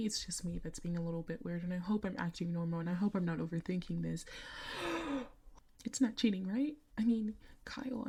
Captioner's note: deep breath